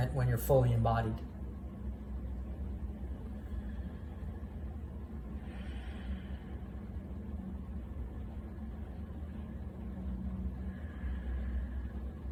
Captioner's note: deep breath